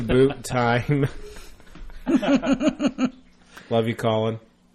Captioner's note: all laugh